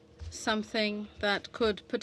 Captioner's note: speaking french